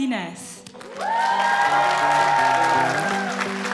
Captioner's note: applause